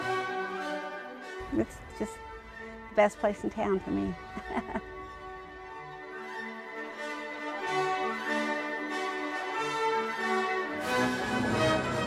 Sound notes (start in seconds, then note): 4.1 laughs; 6.6 triumphant music